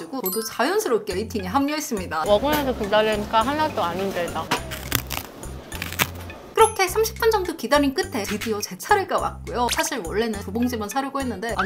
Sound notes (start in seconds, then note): 5.8 nom nom